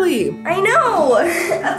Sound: chuckles

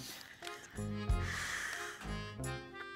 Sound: exhales deeply

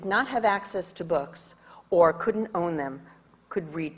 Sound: none

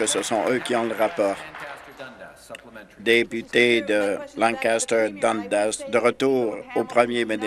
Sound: applause

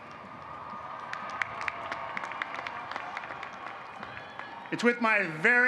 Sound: applause

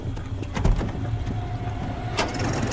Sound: car door opens

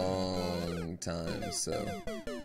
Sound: death audio

